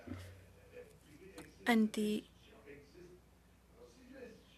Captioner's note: speaking French